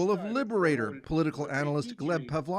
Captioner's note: speaking Foreign Language